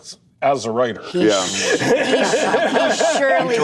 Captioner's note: laughter